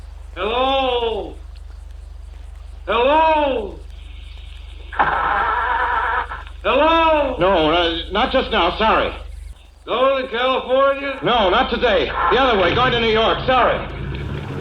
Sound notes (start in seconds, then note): 6.9 nervous, calls out